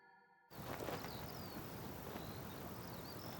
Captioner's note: birds and wind sounds